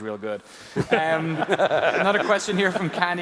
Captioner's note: laughs